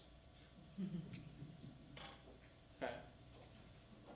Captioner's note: laughing